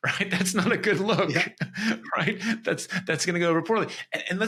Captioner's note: laughs